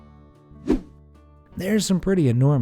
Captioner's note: air whooshing